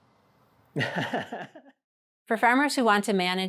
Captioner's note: laughs